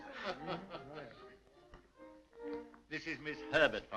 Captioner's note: laughing